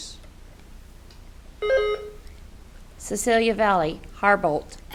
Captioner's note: buzzer beeps